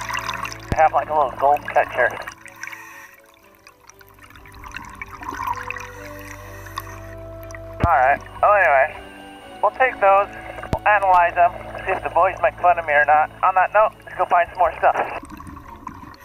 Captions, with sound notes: they have like a little gold catcher. (deep breathing) (water bubbles bubbling) (upbeat classical music) All right. Well, anyway, we'll take those, we'll analyze them. See if the boys make fun of me or not. On that note, let's go find some more stuff.